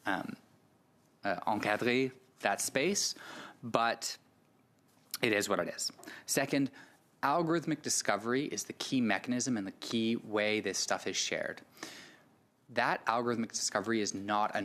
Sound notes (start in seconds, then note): 5.7 speaking French